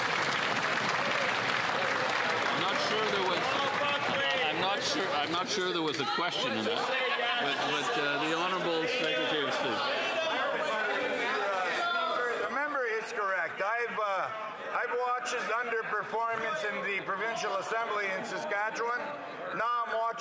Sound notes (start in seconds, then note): 4.5 some Applause